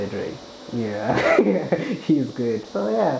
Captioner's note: chuckles